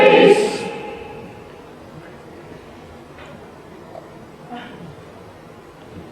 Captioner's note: slurp